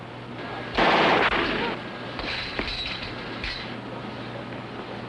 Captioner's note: tommy gun firing